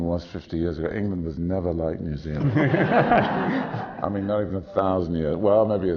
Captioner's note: laughter